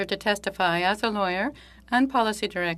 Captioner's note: speaking French